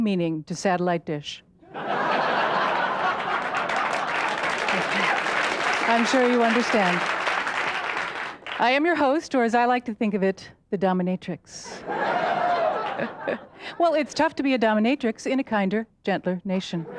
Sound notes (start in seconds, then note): 1.6 audience laughs and claps; 11.7 laughs